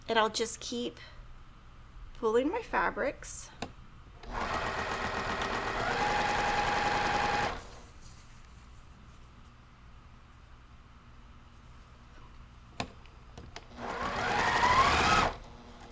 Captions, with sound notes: And I'll just keep pulling my fabrics. (machine whirring)